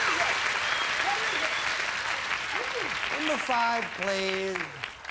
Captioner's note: audience applauding